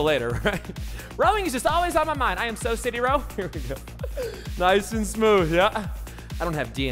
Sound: laughing

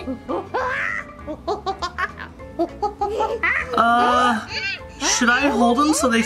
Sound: monkey screeches

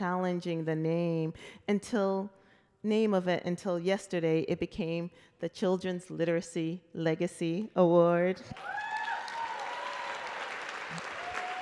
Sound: applause

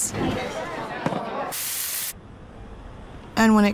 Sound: voices murmuring; sizzling sound

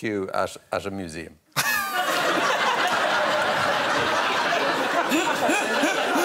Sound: audience laughing

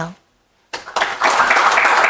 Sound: audience applauds

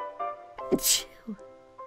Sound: sneezes

